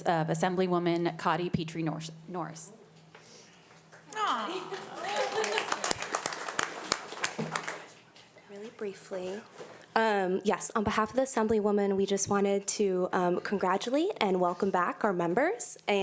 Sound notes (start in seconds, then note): 4.0 audience applauding